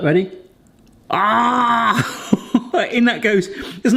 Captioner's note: chuckling